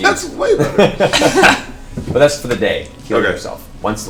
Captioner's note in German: Gelächter